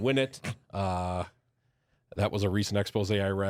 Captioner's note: softly chuckles